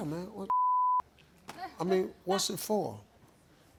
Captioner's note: beep